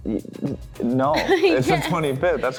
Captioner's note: giggles